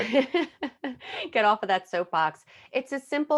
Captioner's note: laughing